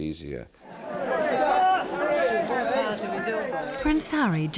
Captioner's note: crowd chattering